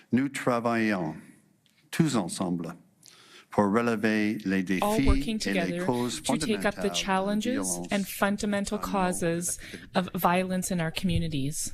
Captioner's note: speaking French